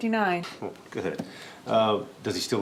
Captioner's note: chuckles